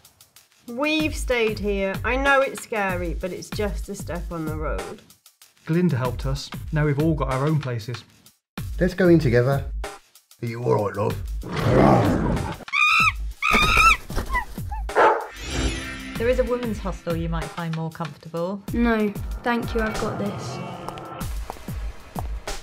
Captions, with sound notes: "We've stayed here. I know it's scary but it's just a step on the road" "Glinda helped us, now we've all got our own places" "Let's go in together" "Are you alright, Love?" [ROAR] [Monkey gibbers, scared] "There is a women's hostel you might find more comfortable?" "No, thank you, I've got this"